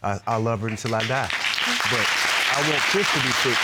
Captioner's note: audience applauding